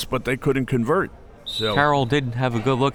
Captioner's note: whistle tweeting